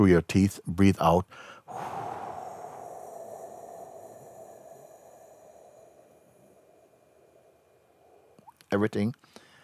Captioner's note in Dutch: ademt heel langzaam uit